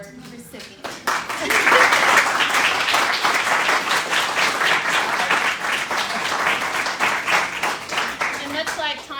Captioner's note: applause